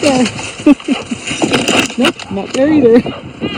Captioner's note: laughing